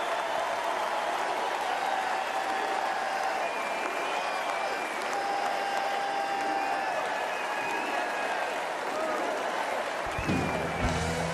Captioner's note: applause